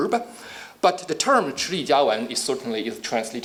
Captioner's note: speaking Chinese